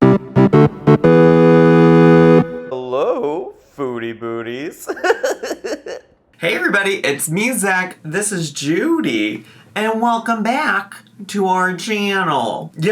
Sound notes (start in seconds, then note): 0.0 retro music; 4.7 laughs